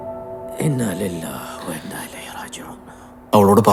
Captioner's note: praying in Arabic